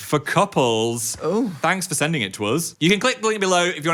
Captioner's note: moans